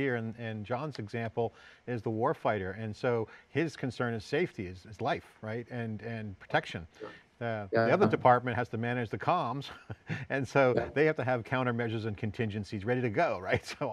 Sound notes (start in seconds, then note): 10.6 laughs